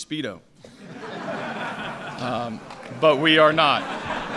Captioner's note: laughter